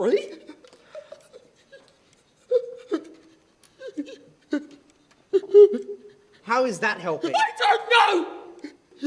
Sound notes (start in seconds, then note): 1.6 gasping